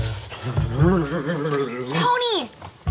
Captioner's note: shivering